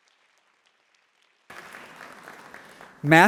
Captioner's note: applause